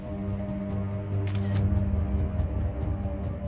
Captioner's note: camera snaps picture